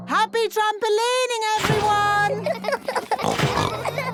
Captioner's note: all laughing; giggles, snorts